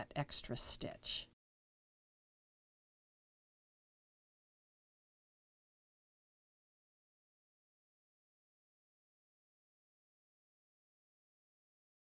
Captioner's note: no Sound Present